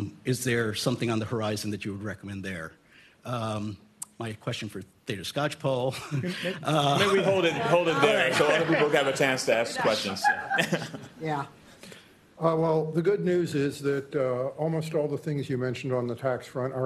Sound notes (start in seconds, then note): 6.0 laughing; 11.4 laughter